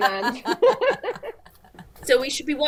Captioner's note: laughing